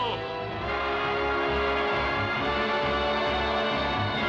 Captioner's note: voices clamoring